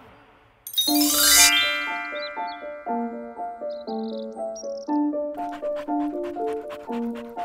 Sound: jaunty piano music; dog panting

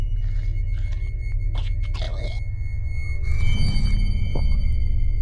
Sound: biting; growling, slurping

